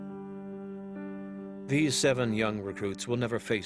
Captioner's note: voiceover